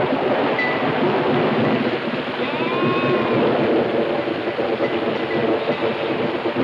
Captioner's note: thunder claps; wind howling